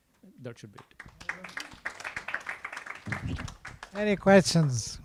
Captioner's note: clapping